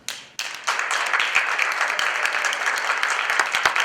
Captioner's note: applause